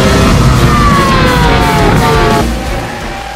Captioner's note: engine sound